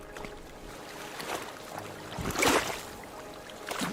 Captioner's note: water splashing